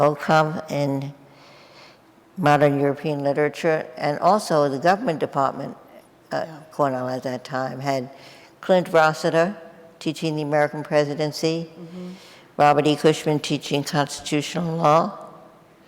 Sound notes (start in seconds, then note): none